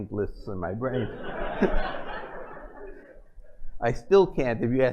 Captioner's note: laughter